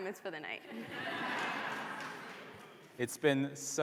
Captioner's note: laughter